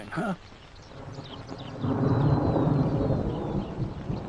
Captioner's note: thunder rumbling